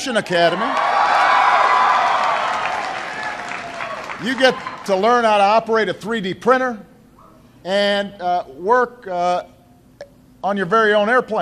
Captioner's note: applause